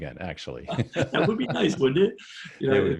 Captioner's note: laughing